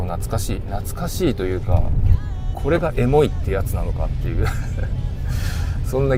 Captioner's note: laughs